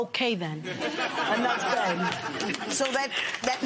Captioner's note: laughter